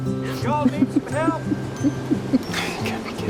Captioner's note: drucinda giggling